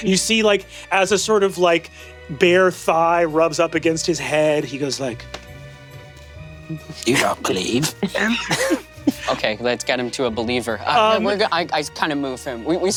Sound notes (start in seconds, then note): 5.5 quirky dramatic music; 7.7 Brennan and Lou laugh